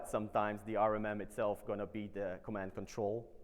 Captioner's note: none